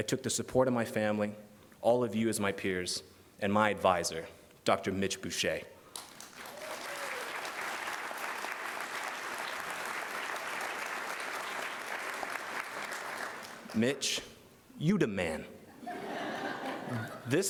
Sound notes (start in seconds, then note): 6.0 cheers and applause